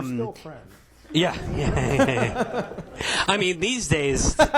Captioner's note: attendees laughing